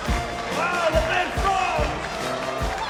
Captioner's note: audience cheering and applauding